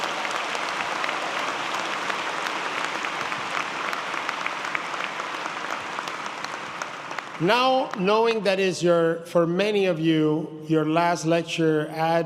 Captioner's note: applause